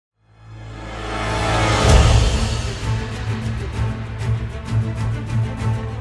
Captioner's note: thrilling music; title whooshing